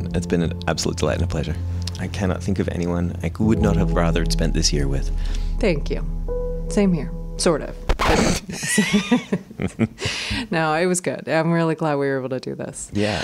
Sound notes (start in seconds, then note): 7.9 record scratch; 8.5 laughter